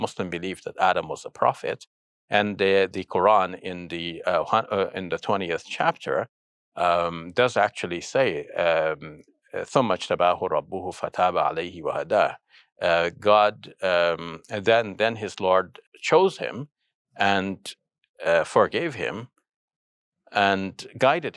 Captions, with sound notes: that Adam was a prophet and the Quran in the 20th chapter does actually say (speaking in foreign language) God, and then his Lord chose him and forgave him and guided him.